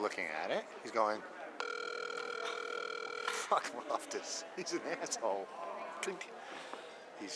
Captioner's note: ringing sound